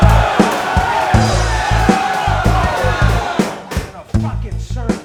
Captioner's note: can banging on bar